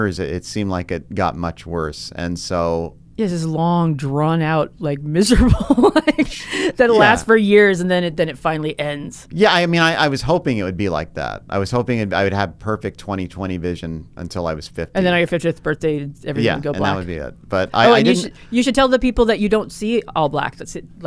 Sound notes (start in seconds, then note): 5.4 laughs